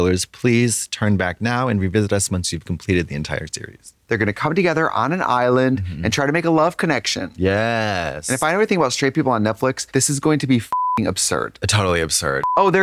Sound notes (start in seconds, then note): 12.4 beep